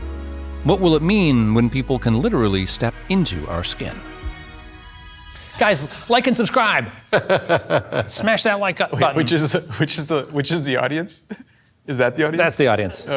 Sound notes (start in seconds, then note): 7.0 group laughs